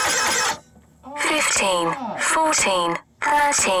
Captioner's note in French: la pompe grince; Voix robotique